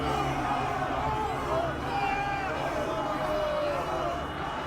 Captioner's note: crowd yelling